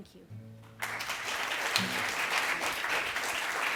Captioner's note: applause